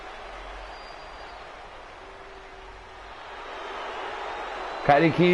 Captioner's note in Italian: Applauso